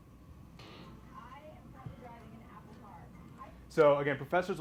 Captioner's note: woman speaking on video